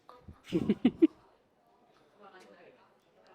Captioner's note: laughing